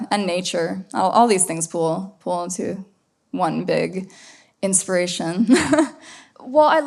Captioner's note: laughs